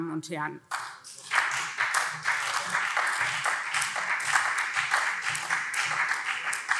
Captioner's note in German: Beifall SPD